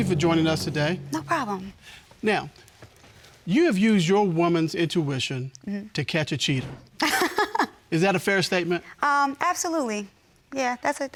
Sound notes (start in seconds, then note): 7.4 laughs